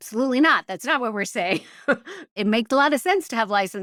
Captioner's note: laugh